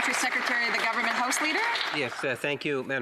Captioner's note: some Applause